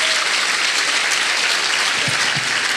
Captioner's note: applause